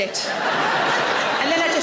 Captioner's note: audience laughing